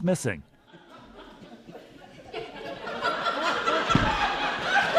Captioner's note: audience laughing